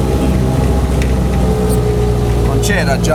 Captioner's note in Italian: Motore cala di giri